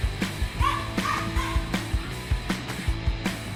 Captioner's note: Vivien shouts; Vivien grunts